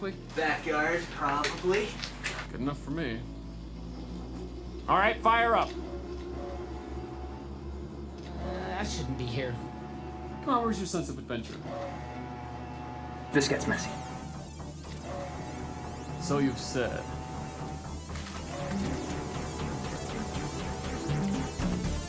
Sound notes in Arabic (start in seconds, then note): 5.8 طنين الآلة; 14.4 موسيقى متوترة